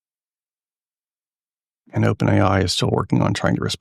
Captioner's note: silence